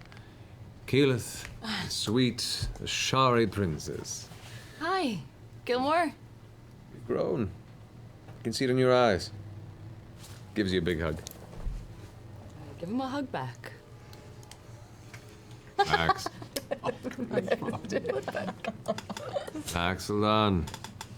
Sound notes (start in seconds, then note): 15.7 giggles